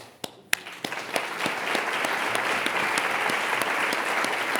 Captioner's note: audience applauding